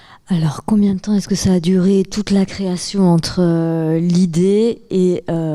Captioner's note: speaking in French